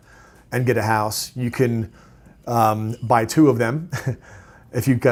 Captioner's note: chuckles